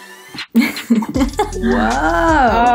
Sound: laughing

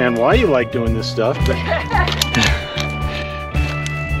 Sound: laughter

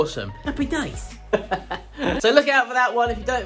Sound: laughing

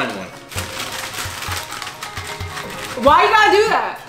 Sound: plastic shuffling

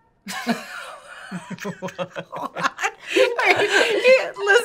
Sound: laughing

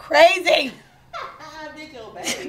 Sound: female laughs

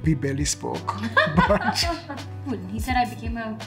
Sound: both laughing

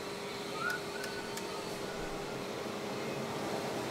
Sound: man whistles

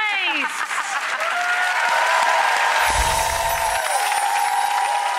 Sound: audience applause

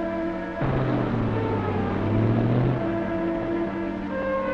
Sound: engine revving

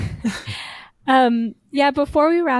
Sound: chuckling

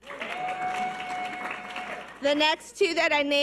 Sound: audience cheers and applause

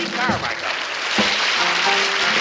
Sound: applause

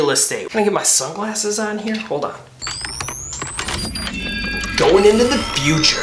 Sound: sunglasses whir

